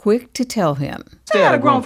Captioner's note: soundbite of tv show, "the wonders years"